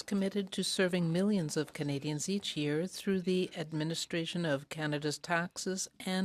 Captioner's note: speaking french